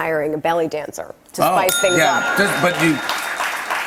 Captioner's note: ding!